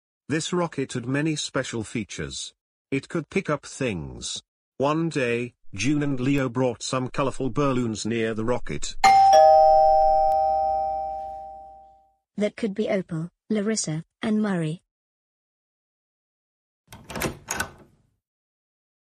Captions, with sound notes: This rocket had many special features. It could pick up things. One day, June and Leo brought some colourful balloons near the rocket. (DOORBELL RINGS) That could be Opal, Larissa and Murray. (DOOR OPENS)